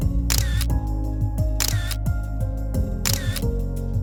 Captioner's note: camera shutter